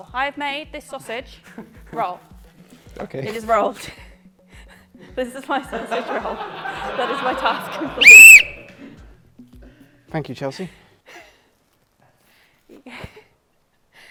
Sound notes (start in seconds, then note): 5.5 laughter; 7.9 blows whistle